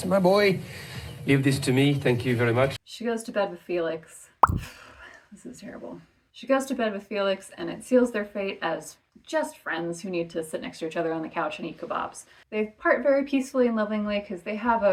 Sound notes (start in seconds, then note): 4.2 makes disappointed noise